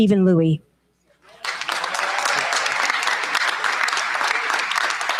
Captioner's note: cheers, applause